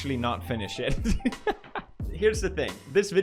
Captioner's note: chuckles